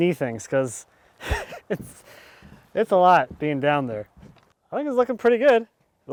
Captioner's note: chuckling